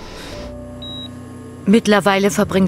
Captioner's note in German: Piepsen